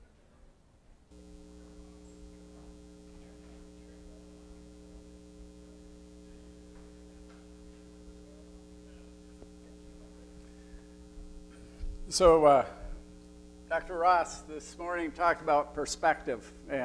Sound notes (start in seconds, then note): 1.1 audience chattering in the background